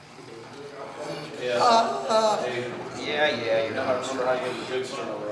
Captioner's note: Iraqi man moaning; Iraqi man cries out